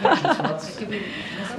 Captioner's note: laughs